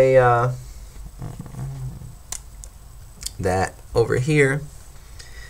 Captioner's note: hums